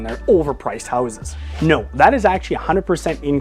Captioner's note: air whooshing